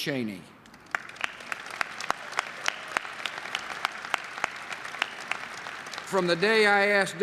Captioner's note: applause